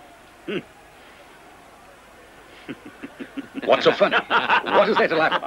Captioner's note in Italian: risate